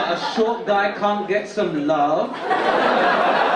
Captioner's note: audience laugh